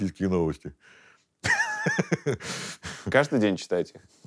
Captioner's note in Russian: смеется